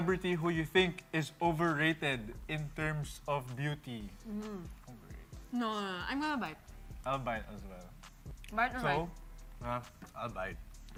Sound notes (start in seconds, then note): none